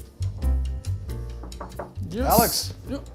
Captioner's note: knocks on door